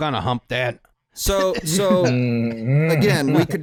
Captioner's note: chuckles